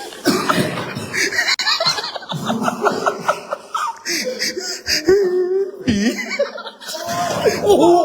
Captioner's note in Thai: เสียงหัวเราะ